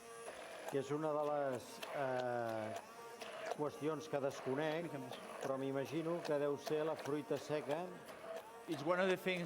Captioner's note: non-english speech